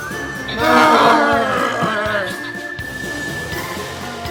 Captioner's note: Longbutt screams